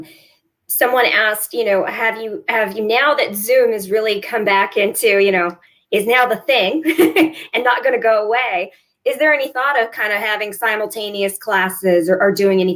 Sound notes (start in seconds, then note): 6.8 laughter